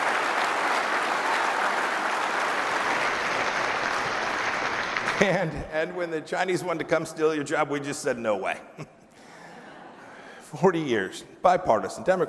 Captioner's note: applause